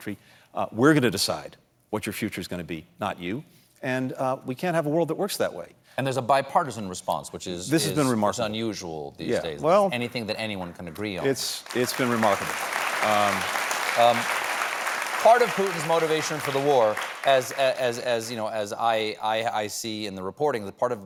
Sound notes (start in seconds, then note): 14.1 applause